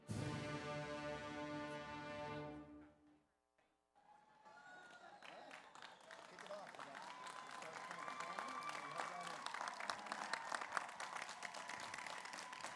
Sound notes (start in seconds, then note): 4.1 audience cheers; 4.4 audience applauds